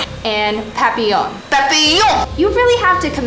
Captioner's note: French accent